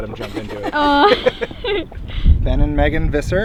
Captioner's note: laugter